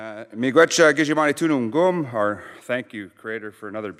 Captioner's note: speaking Indigenous language